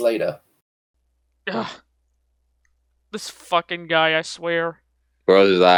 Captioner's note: scoffs